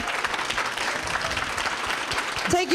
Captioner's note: applause